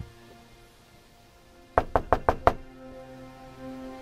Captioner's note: knocks on door